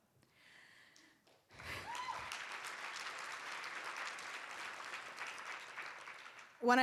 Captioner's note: cheers and applause